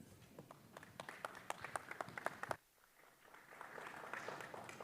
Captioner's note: applause